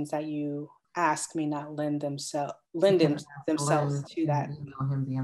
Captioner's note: mumbles